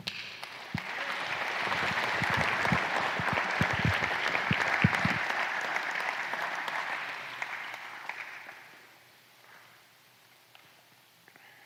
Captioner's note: applause